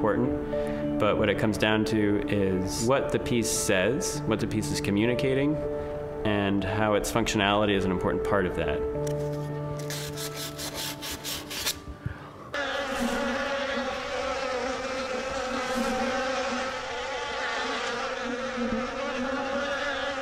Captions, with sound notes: but what it comes down to is what the piece says, what the piece is communicating, and how its functionality is an important part of that. [sandpaper scraping] [bees buzzing]